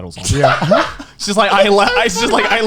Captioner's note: laughing